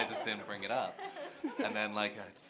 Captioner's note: laughter